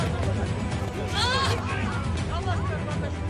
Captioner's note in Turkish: Bağırma Sesi